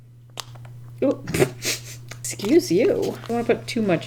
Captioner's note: laughs